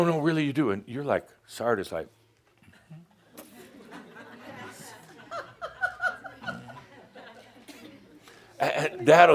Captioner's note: some giggles, as Adamus nods his head